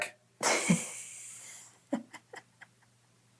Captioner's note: laughs